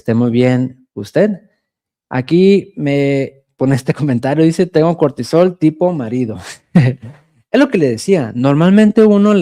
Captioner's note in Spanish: risas